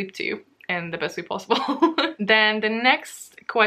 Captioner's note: laughs